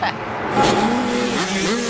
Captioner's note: chuckles; whoosh sfx; electronic music fades out